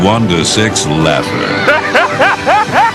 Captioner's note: laughs